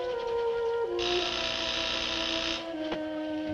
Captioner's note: door buzzes again